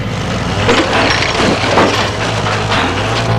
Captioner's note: mechanical noises